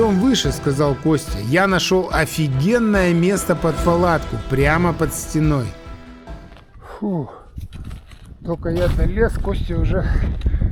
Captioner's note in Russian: вздыхает